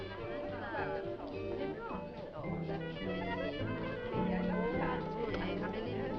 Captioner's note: people chattering; upbeat music